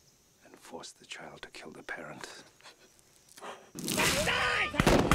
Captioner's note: crying; gunshots; screams